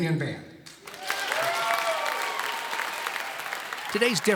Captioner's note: clapping